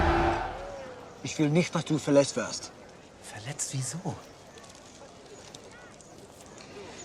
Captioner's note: soldiers cheering; characters speaking in a foreign language